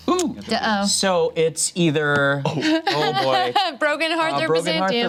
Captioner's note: group laughs